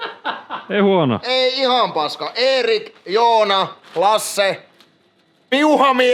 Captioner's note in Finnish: naurua